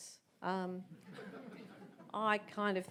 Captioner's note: audience laughs